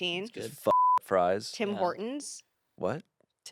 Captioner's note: beep